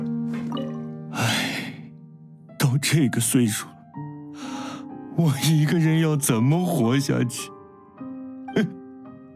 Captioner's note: sigh; sobbing